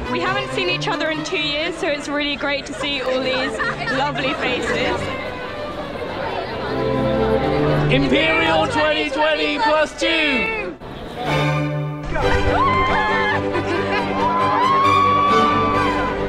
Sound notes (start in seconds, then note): 5.0 excited chatter; 5.0 gentle music; 11.2 triumphant music; 12.1 excited cheering